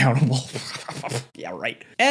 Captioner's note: sputtering